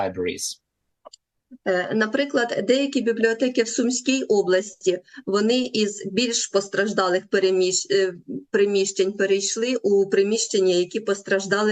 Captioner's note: foreign language